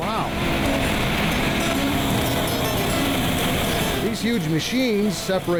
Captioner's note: machines whirring